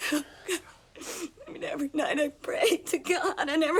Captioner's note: sobs